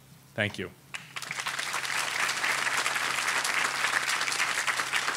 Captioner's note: audience applauding